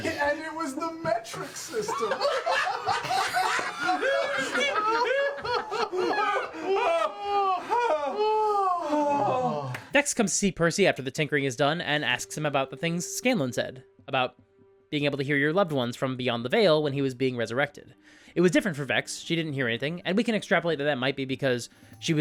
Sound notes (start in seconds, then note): 5.2 exaggerated laugh; 8.2 all laugh